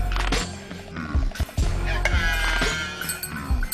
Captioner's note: people screaming